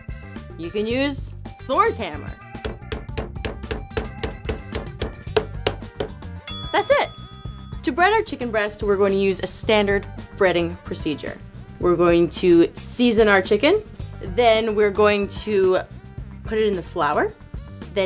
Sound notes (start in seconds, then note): 2.6 pounding; 6.4 ding